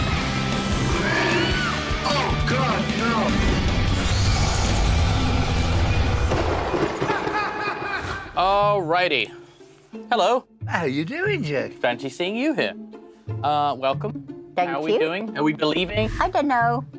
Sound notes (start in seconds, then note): 1.0 woman 1 screams; 2.8 theme music playing; 5.9 lightning strikes; 7.0 laughs